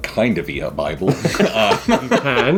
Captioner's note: laughing